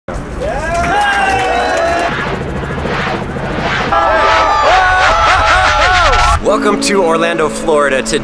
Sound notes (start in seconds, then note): 0.7 victorious cheering